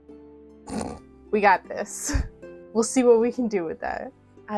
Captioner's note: chortle